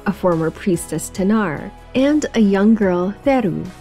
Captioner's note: none